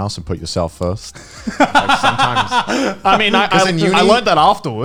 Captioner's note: laughing